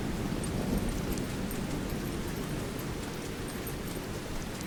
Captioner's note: footfalls squishing